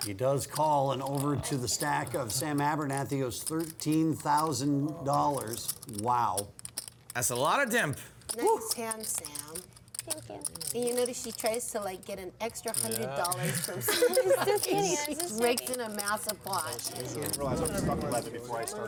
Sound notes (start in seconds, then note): 13.4 laughter; 16.2 chatter